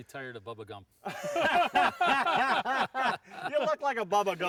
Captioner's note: group laughing